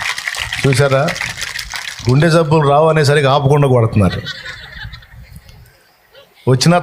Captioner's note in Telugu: నవ్వు